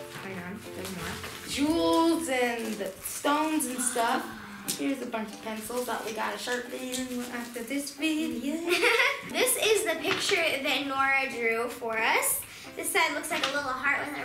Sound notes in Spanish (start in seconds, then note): 8.6 risas